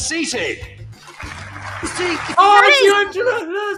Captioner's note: audience applauds